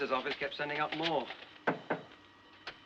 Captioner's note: Batendo